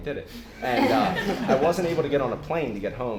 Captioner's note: laughter